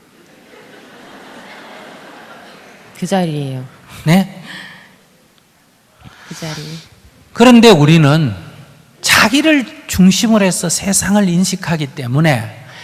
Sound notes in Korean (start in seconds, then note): 0.1 청중 웃음